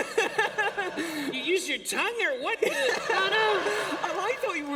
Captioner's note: laughter